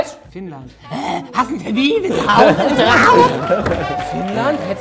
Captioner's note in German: nachäffend; Jubel